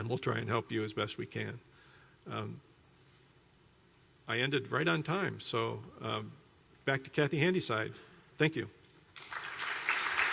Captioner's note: applause